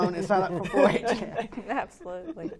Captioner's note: laughing